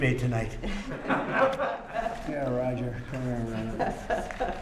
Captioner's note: laughter